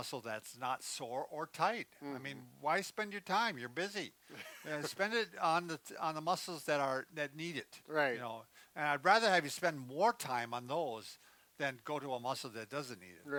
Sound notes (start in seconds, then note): 4.9 laughs